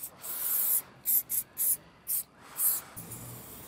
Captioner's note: jerky spraying noises